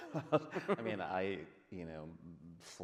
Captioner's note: men laughing